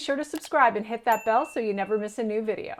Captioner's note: bell dinging